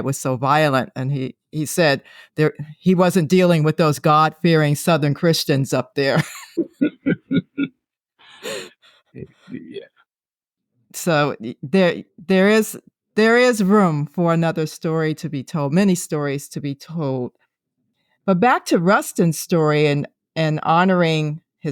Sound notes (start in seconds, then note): 6.2 laughing